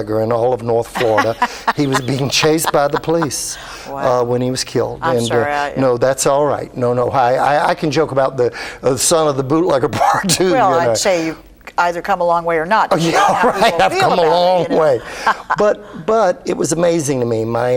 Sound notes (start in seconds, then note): 9.9 laughs